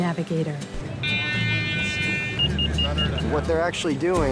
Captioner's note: buoy buzzing